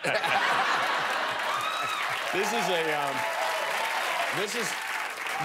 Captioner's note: laughter and applause